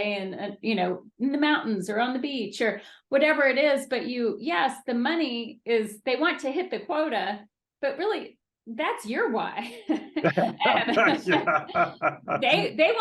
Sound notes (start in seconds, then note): 10.0 laughing